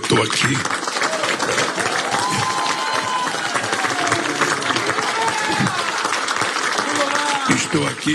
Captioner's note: applause